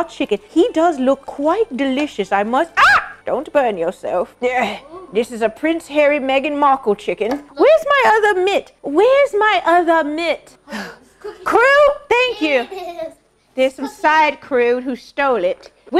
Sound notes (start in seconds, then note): 2.8 oohs